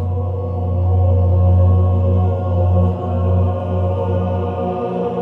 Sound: pipes resonating

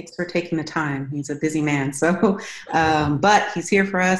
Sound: laughs

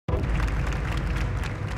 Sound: crowd applauding

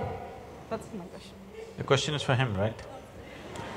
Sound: laughter

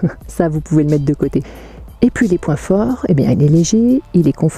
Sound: laugh

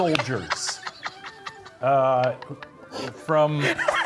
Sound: laughing

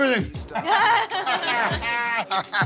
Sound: laughs; laughing

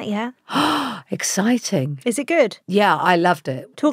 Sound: gasps

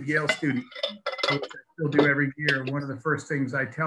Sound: dishes clanging

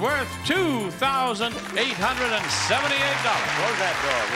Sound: audience applauding

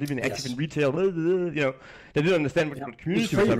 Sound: mimics blathering

